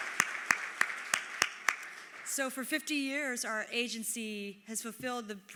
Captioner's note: applause